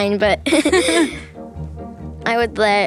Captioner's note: both laughing